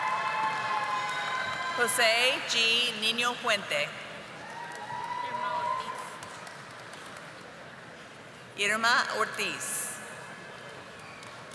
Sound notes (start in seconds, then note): 0.0 audience applauding; 7.8 audience applauding